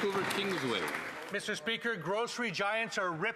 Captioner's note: applause